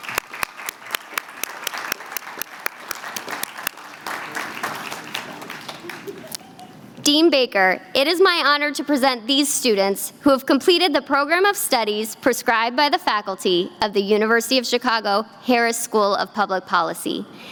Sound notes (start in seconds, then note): 5.5 applause